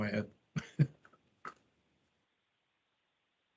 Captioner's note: chuckles